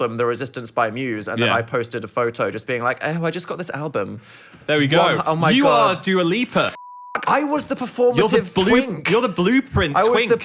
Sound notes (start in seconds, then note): 6.6 beep